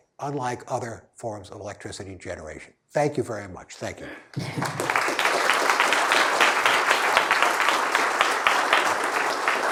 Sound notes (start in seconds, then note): 4.3 applause